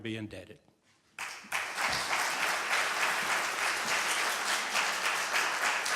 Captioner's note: applause